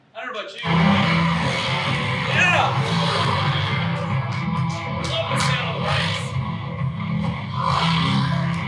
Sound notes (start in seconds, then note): 3.7 snowmobile engine revving